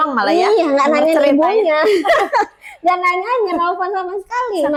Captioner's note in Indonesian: tertawa